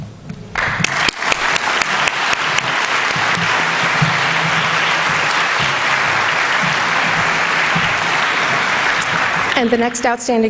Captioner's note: applause